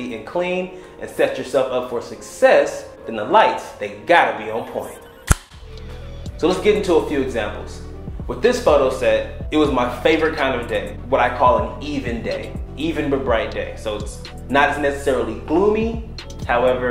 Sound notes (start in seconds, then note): 5.2 snaps fingers